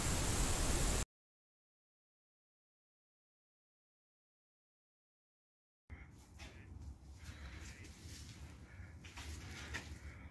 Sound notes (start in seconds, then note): 6.8 feet crunching